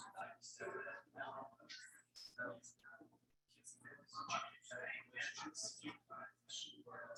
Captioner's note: people chattering indistinctly continues